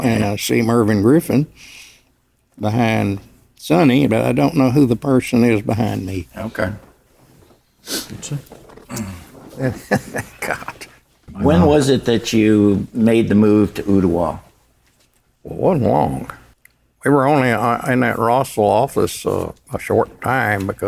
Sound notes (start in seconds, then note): 8.8 chuckles